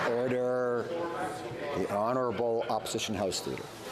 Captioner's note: some Applause